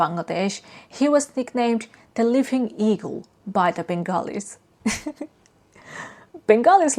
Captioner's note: chuckles